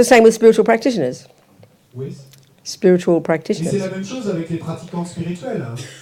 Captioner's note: French